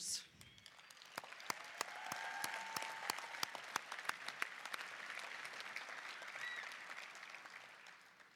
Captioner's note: applause, cheering